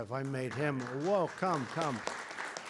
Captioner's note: applause